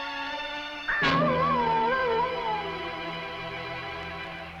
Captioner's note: animal howling